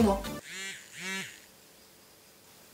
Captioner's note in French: message en vibreur